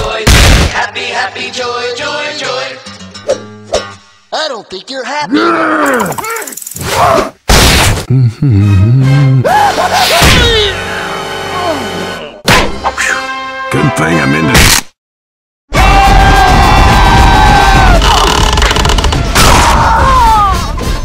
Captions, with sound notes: happy happy joy joy joy i don't think you're happy GGRRR bro watch out *SCREAM* oof whew good thing i'm indestructible- *fighting noises* aaa